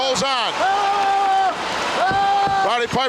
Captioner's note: Roddy shouting